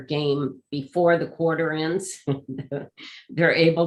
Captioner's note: laughs